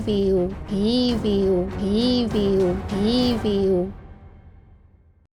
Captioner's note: echoing: Awful!